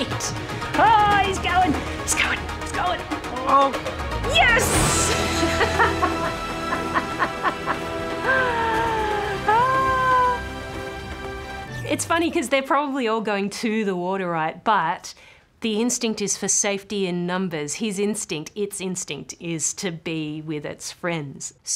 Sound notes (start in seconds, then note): 5.2 laughs